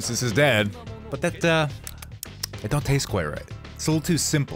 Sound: smacksmacksmack

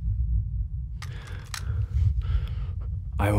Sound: gun cocking

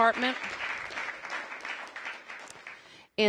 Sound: applause

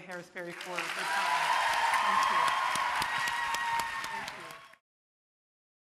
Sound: audience cheering

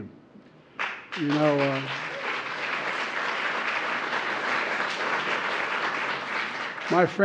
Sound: applause

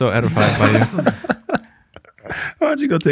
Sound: all laugh

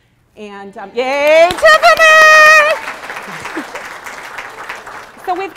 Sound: applause

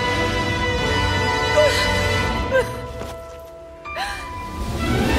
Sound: sobbing

